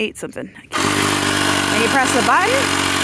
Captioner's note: motor roars